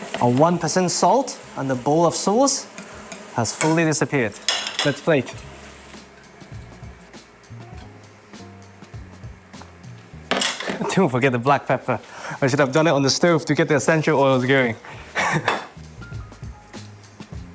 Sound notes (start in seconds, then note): 14.9 chuckles